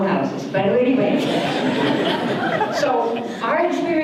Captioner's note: audience laughter